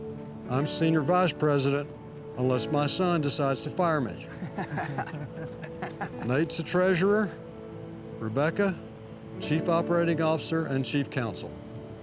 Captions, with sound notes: I'm senior vice president, unless my son decides to fire me. [LAUGHTER] Nate's the treasurer. Rebecca, chief operating officer and chief counsel.